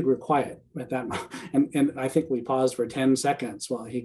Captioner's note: chuckling